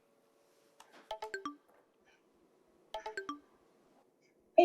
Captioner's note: digital tone plays